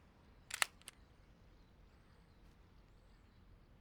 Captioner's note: cocks pistol